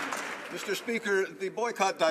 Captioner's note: some Applause